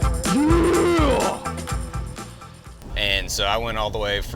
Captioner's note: grunts